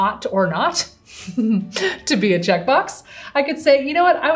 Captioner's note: chuckles